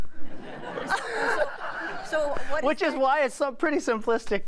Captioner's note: laughter